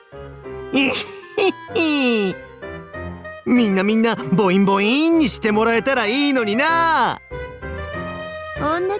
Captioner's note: laugh